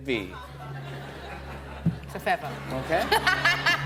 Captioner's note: laughter